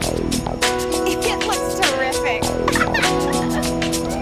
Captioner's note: laughing